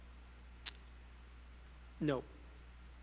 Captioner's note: student speaking faintly